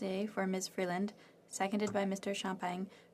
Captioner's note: speaking French